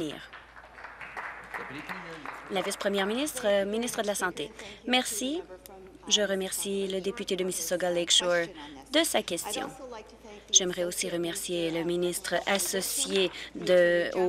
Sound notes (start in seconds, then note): 3.4 applause